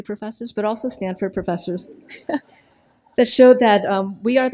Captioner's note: laughs